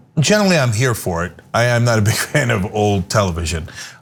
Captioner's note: laugh